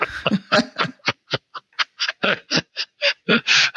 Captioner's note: both laughing